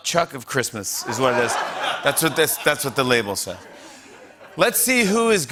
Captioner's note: laughter